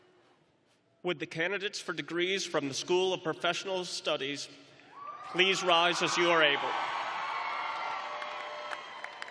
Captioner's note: cheering